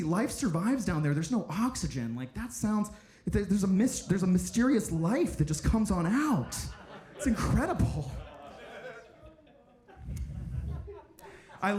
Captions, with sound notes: Life survives down there. There's no oxygen. Like that sounds... There's a mysterious life that just comes on out. (audience laughing) It's incredible. (audience laughing)